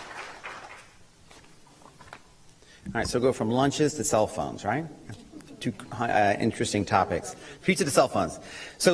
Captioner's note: applause